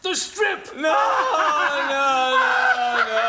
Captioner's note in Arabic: تضحك دمية الشيطان